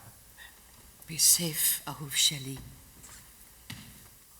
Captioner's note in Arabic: بالعبري